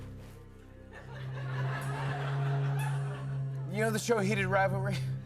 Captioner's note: laughter